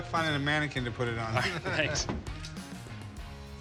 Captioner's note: laughs